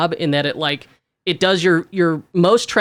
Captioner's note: none